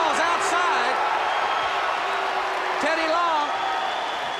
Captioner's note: crowd cheering